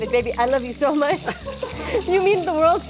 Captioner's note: laughing